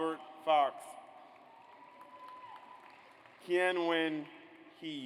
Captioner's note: audience applauds